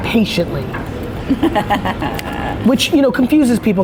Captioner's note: interviewer laughs